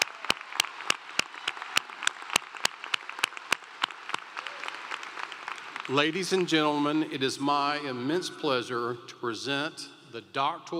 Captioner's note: applause